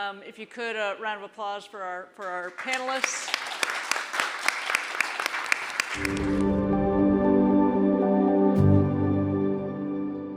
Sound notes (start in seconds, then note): 2.2 all applauding; 6.0 bright music